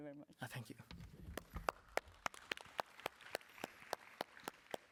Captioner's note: applause